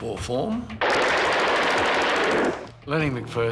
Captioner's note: gunfire rattling